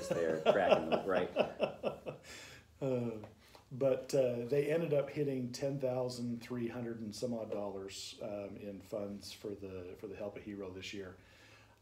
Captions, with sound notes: You're just there cracking the ... right. (laughter) - They ended up hitting $10,300 and some odd dollars in funds for the Help a Hero this year.